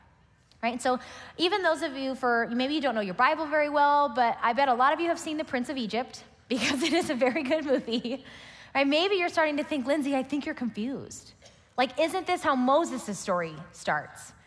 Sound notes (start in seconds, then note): 8.1 laughs